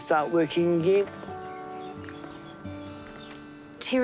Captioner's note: none